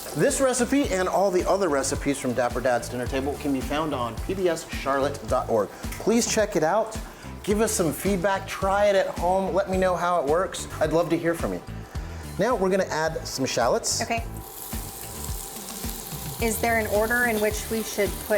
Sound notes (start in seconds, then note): 15.2 bright upbeat music; 15.2 oil sizzling